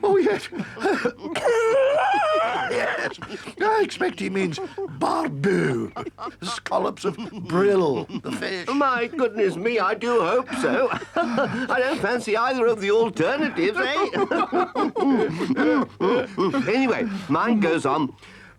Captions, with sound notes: Ooh, yes. [Badger coughs] Yes, I expect he means barbot, scallops of brille fish. - My goodness, me, I do hope so. I don't fancy either of the alternatives, eh? [all laugh] Anyway, mine goes on.